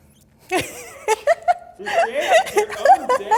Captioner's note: laughs